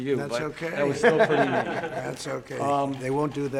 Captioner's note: laughter